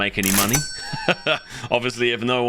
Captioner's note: laughter